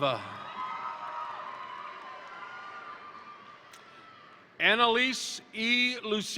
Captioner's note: crowd cheering; crowd applauding